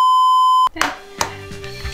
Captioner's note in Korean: 계란 깨는 소리